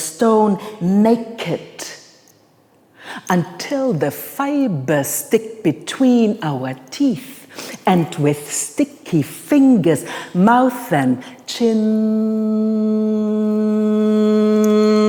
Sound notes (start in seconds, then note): 11.9 humms